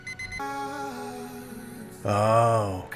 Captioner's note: phone rings